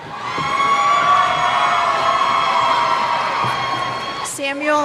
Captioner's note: cheers